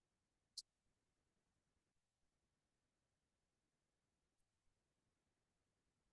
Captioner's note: silence